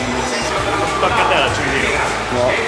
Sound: Italian

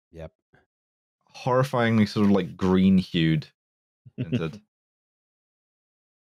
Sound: chuckles softly

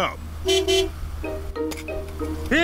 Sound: honks horn

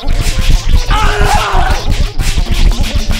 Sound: scReAmInG

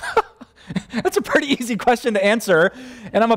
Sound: pastor: Laughter

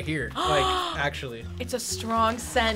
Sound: React gasps

